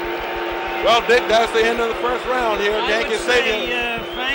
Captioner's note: bell sounds